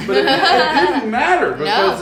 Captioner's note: laughing